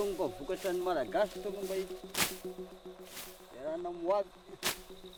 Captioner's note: speaks in foreign language